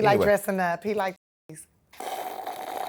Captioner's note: muted